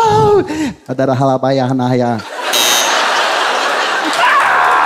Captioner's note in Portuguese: campainha